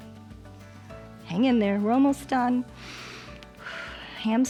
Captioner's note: inhales and exhales